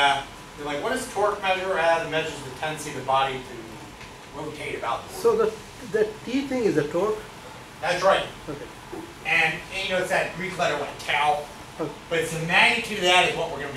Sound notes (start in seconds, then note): 1.9 speaks softly; 5.2 speaks softly